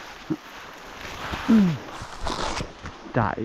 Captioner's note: branches rustling